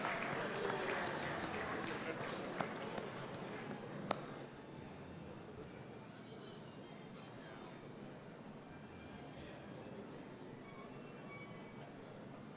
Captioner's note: applause